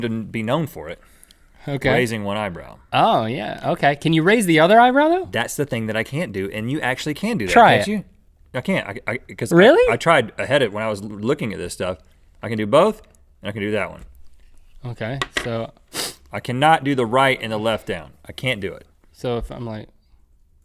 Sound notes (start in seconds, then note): 15.9 sniffs